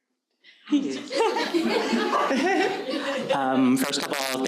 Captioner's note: audience laughing